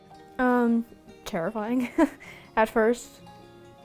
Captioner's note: laughing